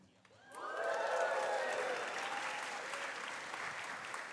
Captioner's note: cheers, applause